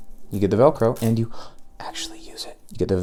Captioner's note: audible gasp